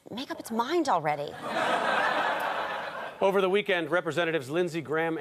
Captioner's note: audience laughter